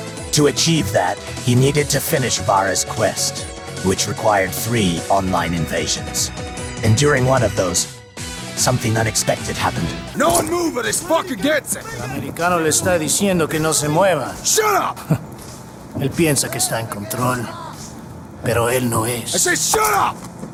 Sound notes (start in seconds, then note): 11.9 Menendez in Spanish; 15.9 Menendez in Spanish